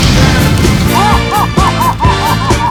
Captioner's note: evil laughter